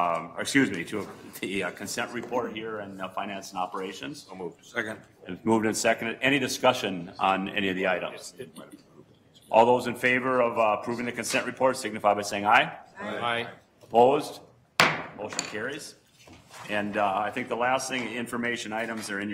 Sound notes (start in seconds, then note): 12.9 multiple voices; 14.8 gavel bangs